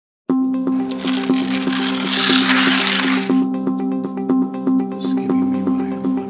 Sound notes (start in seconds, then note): 0.8 paper tearing; 3.6 light music